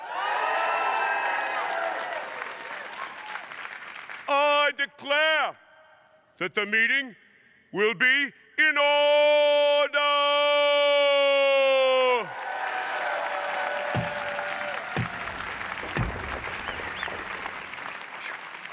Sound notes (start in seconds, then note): 0.0 audience cheering; 0.1 audience applauding; 12.3 audience applauding; 14.8 cane thumps echoing